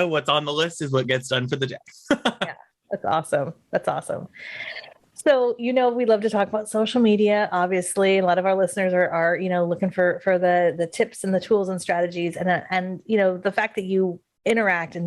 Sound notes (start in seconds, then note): 2.0 laughs